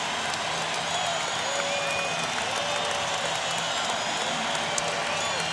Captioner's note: crowd cheering